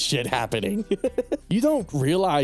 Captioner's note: laughs